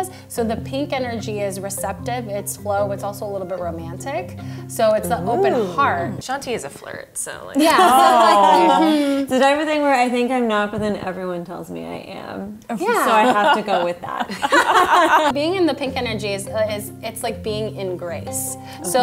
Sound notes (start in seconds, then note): 13.0 laughs